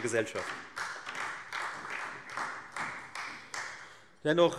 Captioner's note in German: Beifall Freie Demokraten